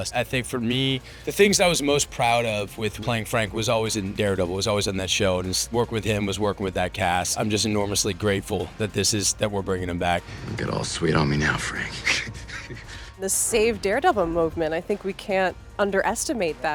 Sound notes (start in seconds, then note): 11.0 laughs